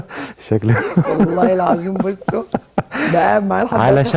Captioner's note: laughs!